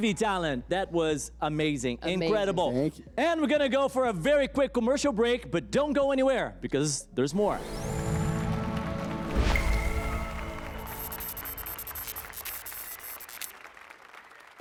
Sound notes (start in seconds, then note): 9.9 applause and cheers